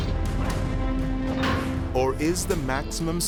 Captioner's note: door clanking